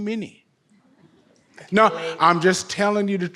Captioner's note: audience laughs